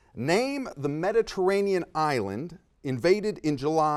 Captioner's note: none